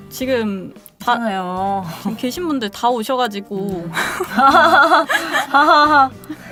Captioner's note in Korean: 웃음